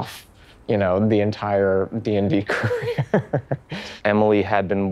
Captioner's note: chuckling